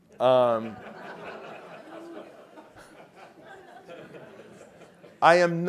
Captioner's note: laugh